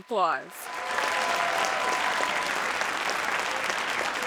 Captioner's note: audience applauding